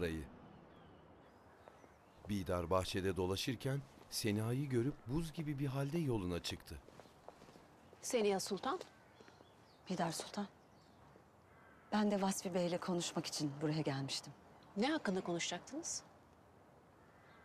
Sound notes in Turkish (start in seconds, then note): 1.8 Ayak sesleri